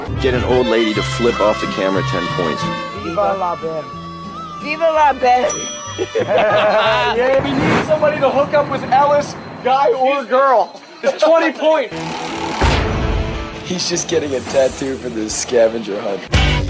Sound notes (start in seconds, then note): 5.8 laughs